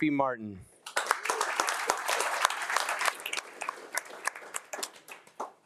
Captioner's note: attendees applauding